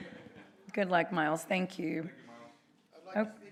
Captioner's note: laughter